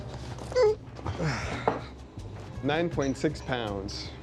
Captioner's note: grunts